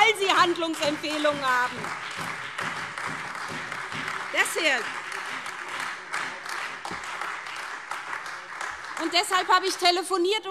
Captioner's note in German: Beifall SPD, Freie Demokraten und vereinzelt AfD